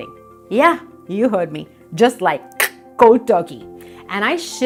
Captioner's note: clicks tongue